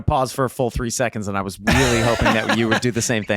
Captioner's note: Charlie laughing